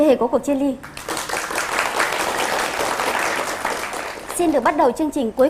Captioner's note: applause